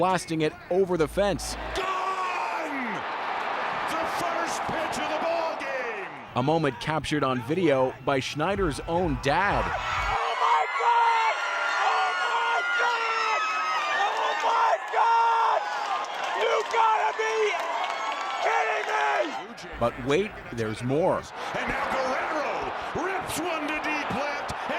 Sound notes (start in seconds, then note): 5.3 cheers and Applause; 16.3 cheers and Applause